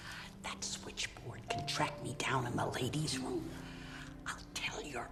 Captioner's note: whispering